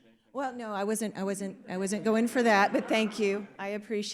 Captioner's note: audience laughs